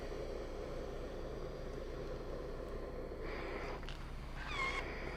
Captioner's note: iron gurgles and hisses